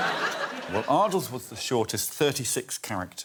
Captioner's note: laughter